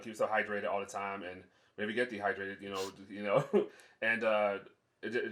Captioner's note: laughs